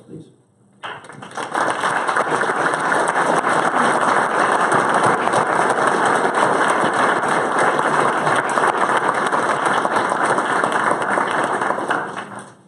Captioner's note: applause